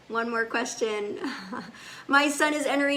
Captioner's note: laughs